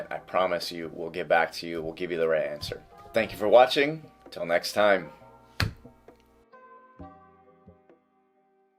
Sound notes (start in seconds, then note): 5.6 clap